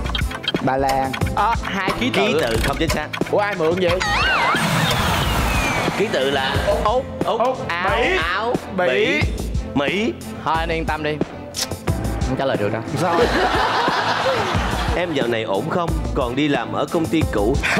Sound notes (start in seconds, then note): 13.0 laughing